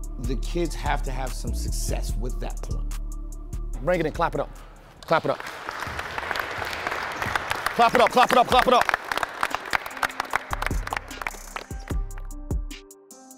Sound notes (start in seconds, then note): 5.0 kids clapping; 10.7 slow music